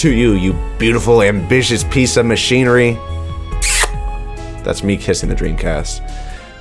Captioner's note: smooch!